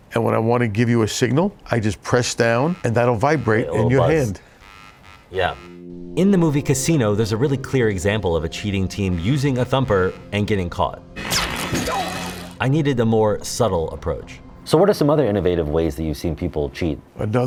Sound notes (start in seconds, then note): 11.2 stun baton zapping; 12.0 man grunting